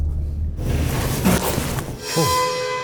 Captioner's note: shuffling